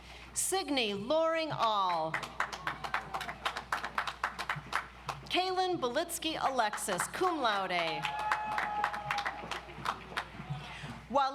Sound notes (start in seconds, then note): 1.8 audience applauds; 6.6 audience applauds